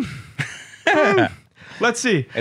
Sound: laughs

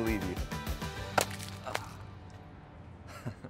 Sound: food smashes; groans; laughing

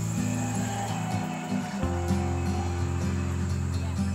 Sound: train horn blaring

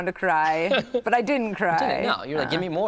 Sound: laughs

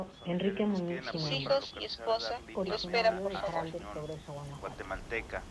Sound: group recordings in Spanish

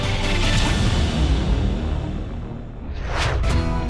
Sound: whooshing sound; country rock music

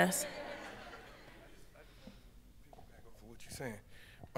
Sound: audience laughs

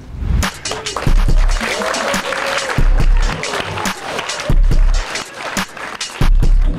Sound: participants applauding

